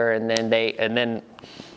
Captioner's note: none